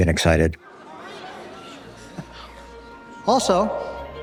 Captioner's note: crowd chattering